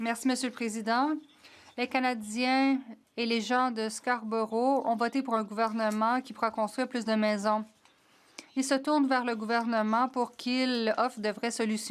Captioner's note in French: voix de l'interprète